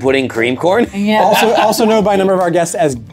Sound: group laughs

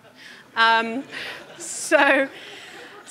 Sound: audience laughing

